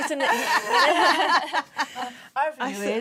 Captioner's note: laughter